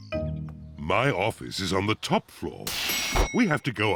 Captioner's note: elevator bell dings